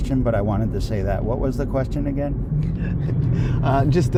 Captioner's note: laughter